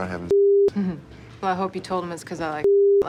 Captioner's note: chuckles